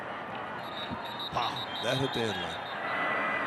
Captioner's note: referee blows whistle